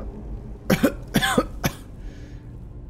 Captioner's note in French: tousse